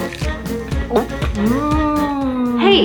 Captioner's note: gulp